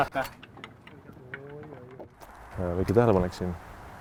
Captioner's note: distant oh no